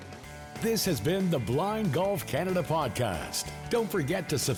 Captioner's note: upbeat music; voiceover